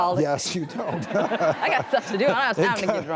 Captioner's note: audience laughter